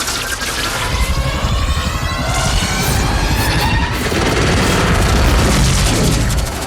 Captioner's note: machine revving and whirring continues